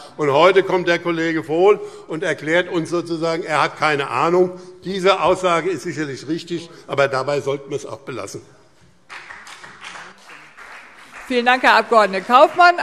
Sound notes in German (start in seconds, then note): 9.0 Beifall BÜNDNIS 90/DIE GRÜNEN und CDU